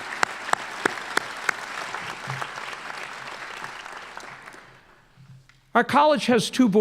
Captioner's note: applause